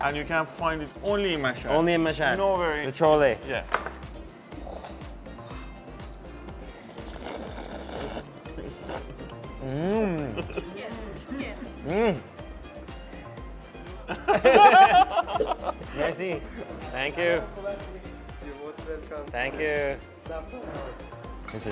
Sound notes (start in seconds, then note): 6.7 slurping noises; 14.0 laughing